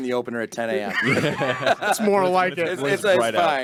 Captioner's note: group laughing